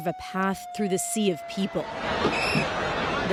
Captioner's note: sound of siren